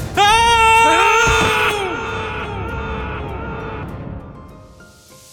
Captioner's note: scream